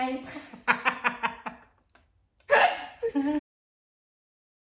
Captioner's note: laughing